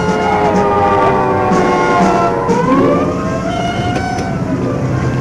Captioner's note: sirens blaring